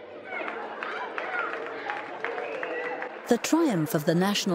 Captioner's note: clapping